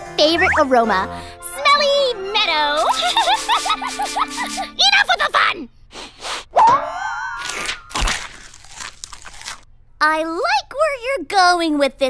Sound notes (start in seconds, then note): 2.8 giddy laughter; 5.9 sniffs; 7.4 munching